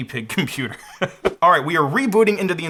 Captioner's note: chuckles